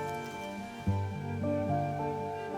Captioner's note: paper rustling